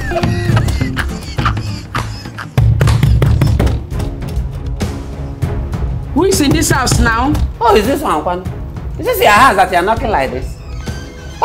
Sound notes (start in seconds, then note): 0.3 knocking on the door; 2.6 knocking continues